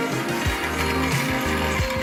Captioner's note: saw Cutting Metal